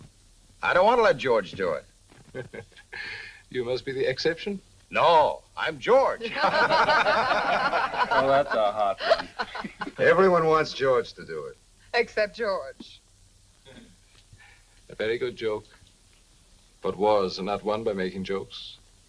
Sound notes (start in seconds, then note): 2.2 Mr. Ohman chuckles; 6.2 group laughing